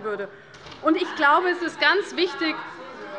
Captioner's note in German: Unruhe - Glockenzeichen des Präsidenten